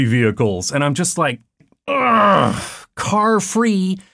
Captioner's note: big sigh